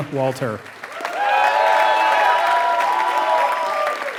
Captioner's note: applause